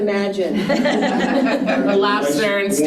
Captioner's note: participants laughing